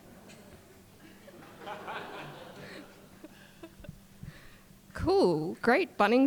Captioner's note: audience laughing